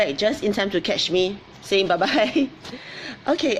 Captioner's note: laughs